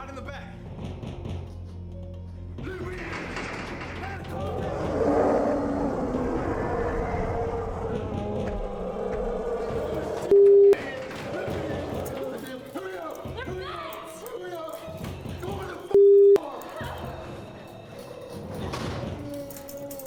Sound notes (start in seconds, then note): 4.2 roars; 5.2 dramatic music; 17.1 dramatic music